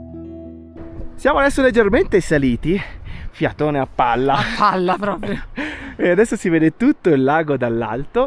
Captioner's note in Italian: risate